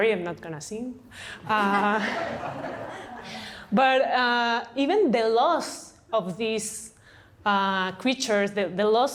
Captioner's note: laughter